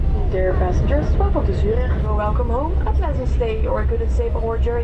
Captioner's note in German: Lautsprecherdurchsage